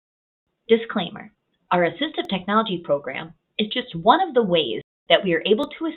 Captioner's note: voiceover